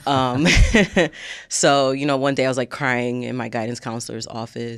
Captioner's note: chuckles